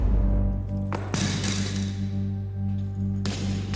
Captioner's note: sound of dumbbells hitting the floor